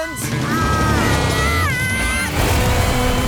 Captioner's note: squeaking